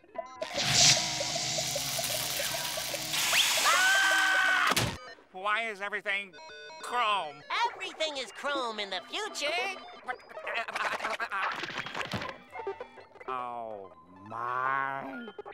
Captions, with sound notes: [zapping] [screaming] Why is everything... chrome? Everything is chrome in the future. [sputtering] Oh, my.